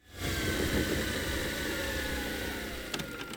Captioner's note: tape machine whirring